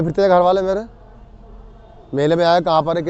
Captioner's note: cars honking